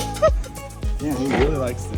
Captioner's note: upbeat music continues; laughs